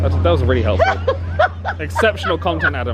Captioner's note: laughing